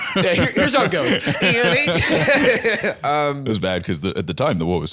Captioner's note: laughs